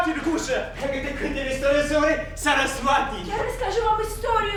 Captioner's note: speaking in a foreign language